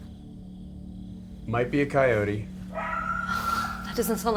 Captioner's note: tense music; animal screams again